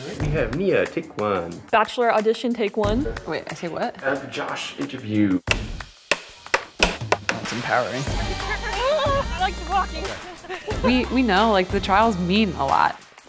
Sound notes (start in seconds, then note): 5.3 title cards clicking; 8.3 exciting music